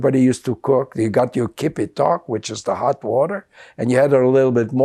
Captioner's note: non-english